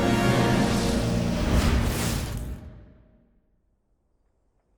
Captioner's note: cinematic melodic music; whooshing